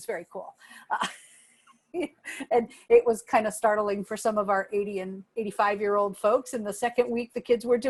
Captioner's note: laughter